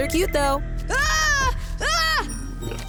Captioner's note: shrieking